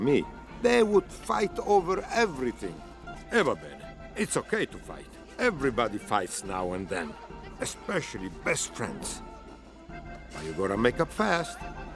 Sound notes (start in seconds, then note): 2.9 speaks in Italian